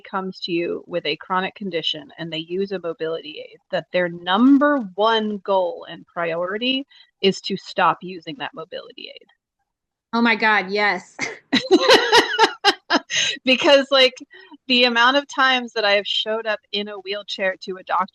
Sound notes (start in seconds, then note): 11.3 laughing